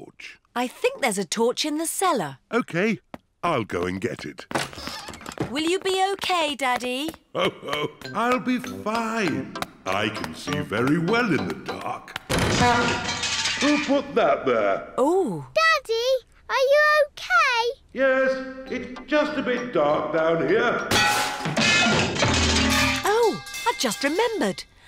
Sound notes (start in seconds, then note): 7.3 laughs; 12.2 crashing; 20.8 clanging and crashing